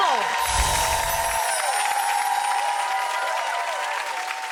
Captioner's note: audience cheers